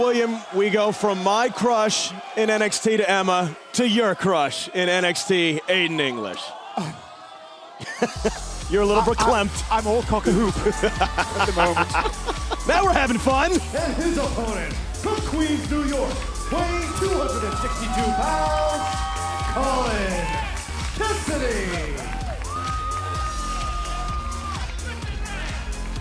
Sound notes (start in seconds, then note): 7.8 laughter; 12.8 laughter